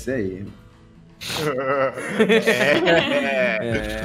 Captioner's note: laughing